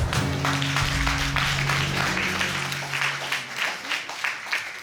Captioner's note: applause